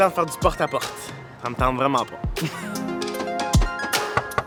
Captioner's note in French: Rires